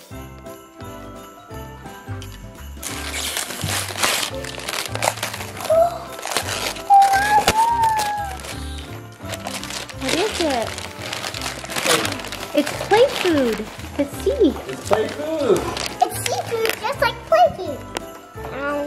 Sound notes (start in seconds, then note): 0.1 happy holiday music; 2.8 paper ripping; 5.6 gasping; 9.2 paper ripping